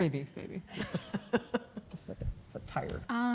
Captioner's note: laughing